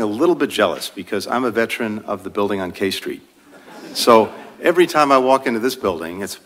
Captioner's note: laughter